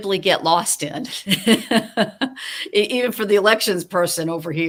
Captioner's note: laughing